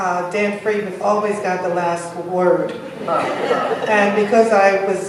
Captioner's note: laughs